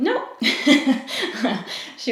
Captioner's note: laughs